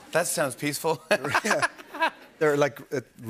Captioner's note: laughter